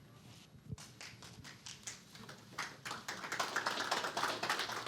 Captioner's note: applause